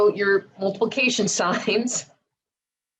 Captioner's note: giggles